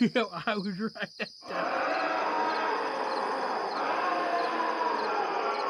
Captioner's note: beastly growling